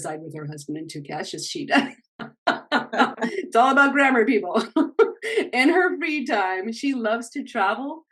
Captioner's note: small laugh